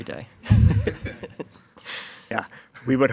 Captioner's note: members chuckling